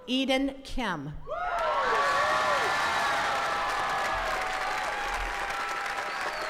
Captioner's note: attendees cheering and clapping